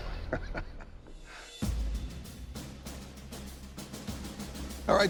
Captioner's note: laughs